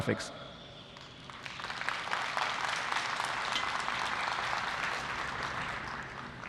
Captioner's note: applause